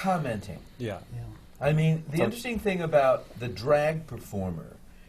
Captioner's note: none